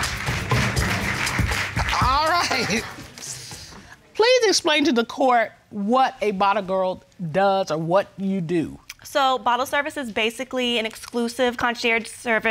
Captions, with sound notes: [Judge Dana chuckles] All right. Please explain to the court what a bottle girl does or what you do? So, bottle service is basically an exclusive concierge service